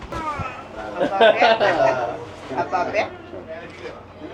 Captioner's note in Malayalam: പൊട്ടിച്ചിരി